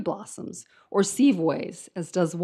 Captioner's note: speaks in foreign language